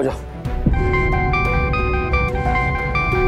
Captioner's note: phone ringing